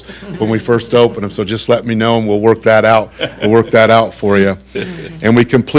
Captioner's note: laughter